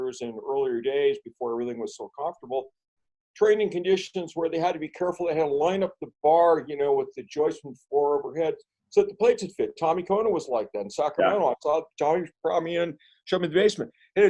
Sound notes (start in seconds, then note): none